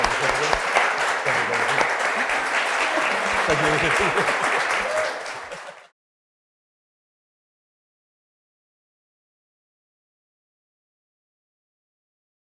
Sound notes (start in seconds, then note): 3.4 everybody laughing